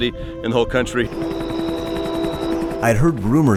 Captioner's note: whirring helicopter